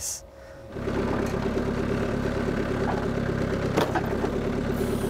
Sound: motor rumbling

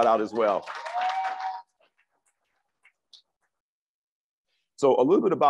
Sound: crowd applauds and cheers

